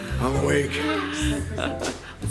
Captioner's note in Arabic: يضحك